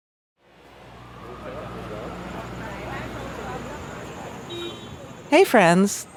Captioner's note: city traffic bustling; people chatting